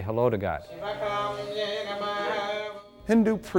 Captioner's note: chanting